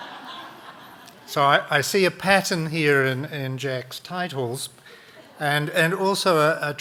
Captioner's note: audience laughing